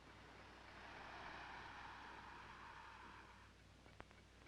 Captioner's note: air hissing